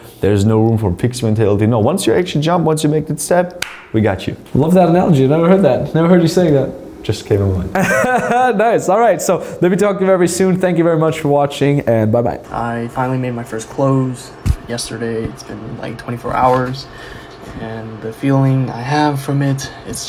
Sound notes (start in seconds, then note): 7.7 laughs